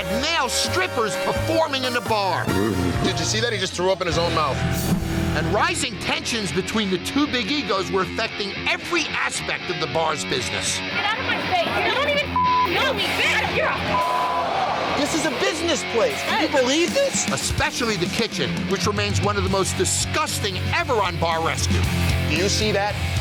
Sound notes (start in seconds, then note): 12.2 beep; 14.8 groans